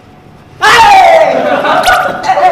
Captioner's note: with a loud cheer